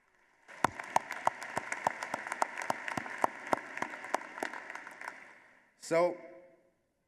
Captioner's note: applause